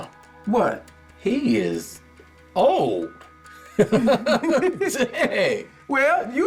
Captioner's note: laughs